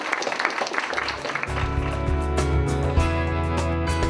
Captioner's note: applause